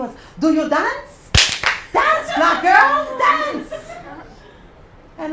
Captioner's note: applause; laugh